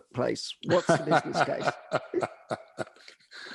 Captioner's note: laughing